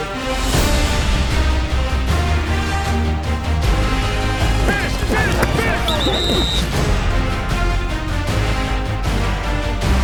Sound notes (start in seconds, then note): 4.6 whistle blows